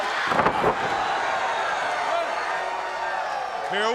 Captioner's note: wrestlers thudding on ring